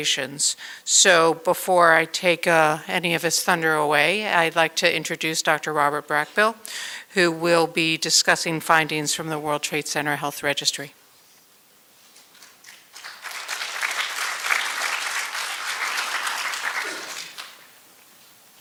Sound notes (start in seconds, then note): 12.3 applause